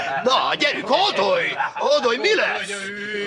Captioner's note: laughing